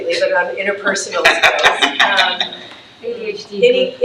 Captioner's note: laughs